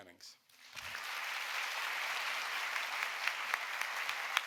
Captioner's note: audience applauding